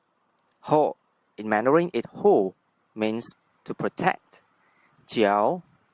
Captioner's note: in Mandarin, 护 - hù